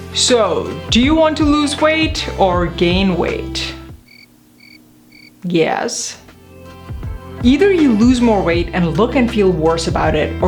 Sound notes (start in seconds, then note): 3.9 crickets chirp